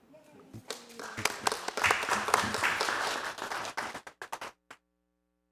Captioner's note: audience applauding